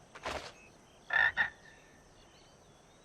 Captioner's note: croaking